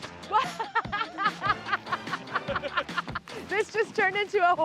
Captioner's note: laughs